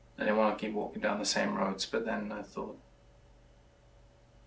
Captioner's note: none